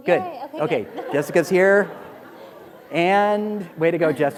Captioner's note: laughter